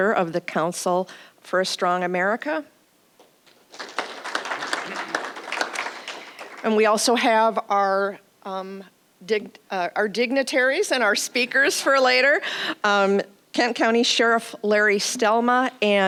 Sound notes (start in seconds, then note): 3.4 applause